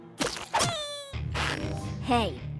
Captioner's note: squeak!